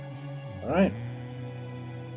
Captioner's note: hums along